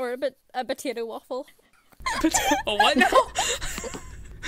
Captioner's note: all hosts laugh